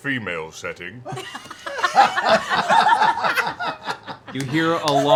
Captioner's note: laughter